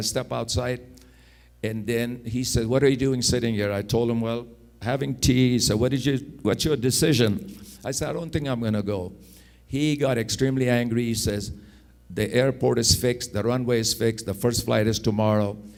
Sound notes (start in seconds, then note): none